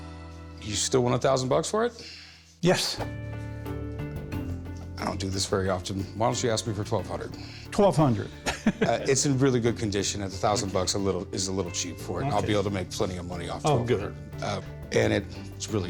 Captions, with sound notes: - You still want 1,000 bucks for it? - Yes. - I don't do this very often. Why don't you ask me for 1,200? - 1,200. [laughs] - It's in really good condition, and 1,000 bucks is a little cheap for it. I'll be able to make plenty of money off of it. - Oh, good. - And it's really cool.